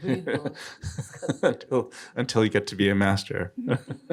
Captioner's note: laughing